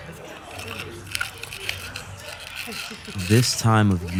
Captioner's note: dog chewing